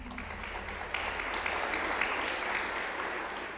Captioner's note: applause